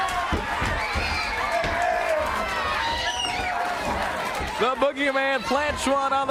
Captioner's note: crowd cheering